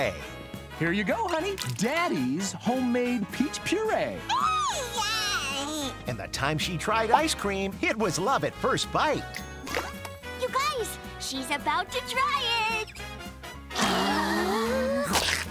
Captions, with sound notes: Here you go, honey, Daddy's homemade peach puree. [babbling] And the time she tried ice cream It was love at first bite. You guys, she's about to try it. [gasping]